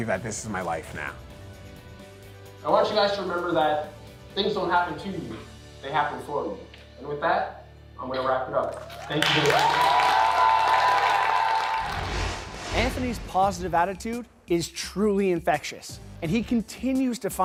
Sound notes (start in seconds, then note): 8.7 cheering, applause